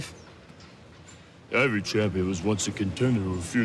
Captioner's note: Imitating Sylvester Stallone